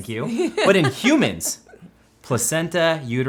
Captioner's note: laughing